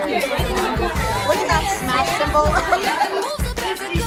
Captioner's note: giggles